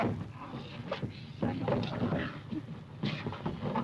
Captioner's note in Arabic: الرجال يتأوهون